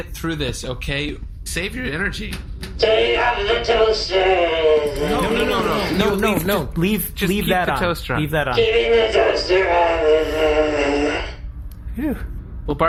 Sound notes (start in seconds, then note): 6.7 skittering